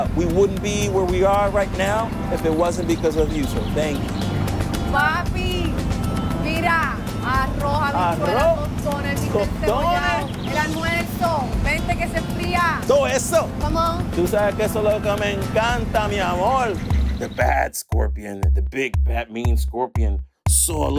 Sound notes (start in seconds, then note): 5.7 speaks in Spanish; 13.3 couple speaks in Spanish